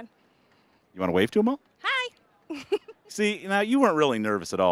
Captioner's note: giggling